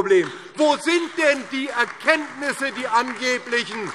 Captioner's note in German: Beifall DIE LINKE, SPD und Freie Demokraten